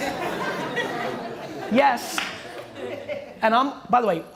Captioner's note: laughter